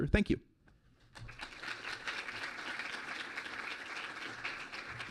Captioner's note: clapping